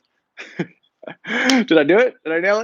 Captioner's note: laughs